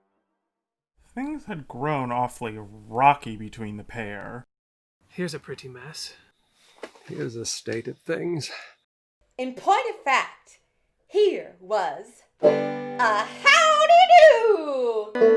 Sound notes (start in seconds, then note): 7.3 irritated; 12.4 strums guitar; 12.9 in an American Midwest accentl